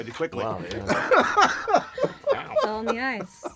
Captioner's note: laughing